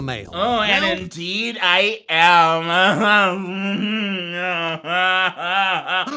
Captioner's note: laughs deviously